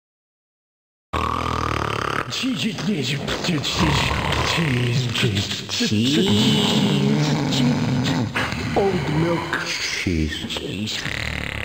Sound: snoring, with random mumblings of “Cheese” mixed in

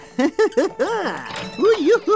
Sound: laughing

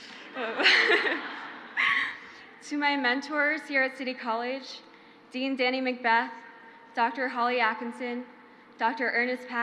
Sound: crowd laughs

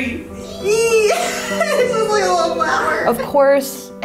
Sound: both screaming

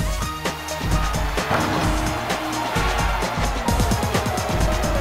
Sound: crowd cheering

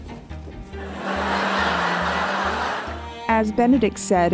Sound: audience laughter

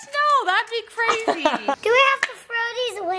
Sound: laughs

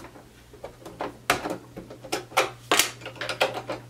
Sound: clanking

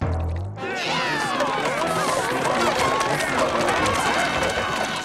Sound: gagging; customers moaning

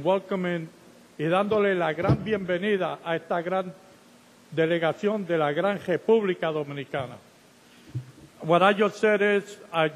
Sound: speaking Spanish

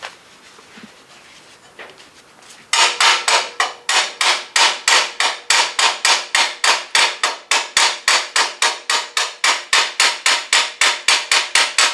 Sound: hammering

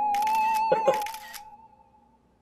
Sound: Rajesh giggles

